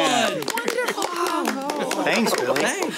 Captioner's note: clapping